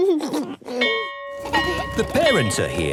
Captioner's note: bell ringing; giggles